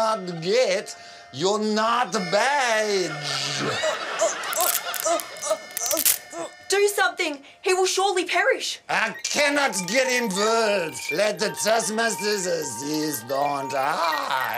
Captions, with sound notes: (GROANS) (CRACKING SOUND EFFECT) Do something. He will surely perish.